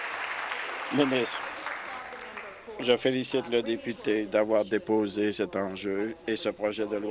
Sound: applause

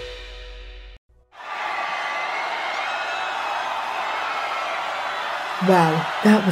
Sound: crowd cheers

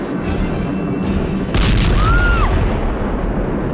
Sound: bombs exploding; screams

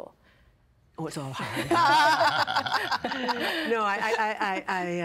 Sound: laughing

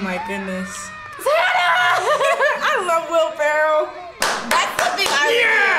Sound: laughs

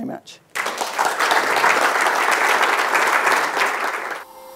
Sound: audience Applause

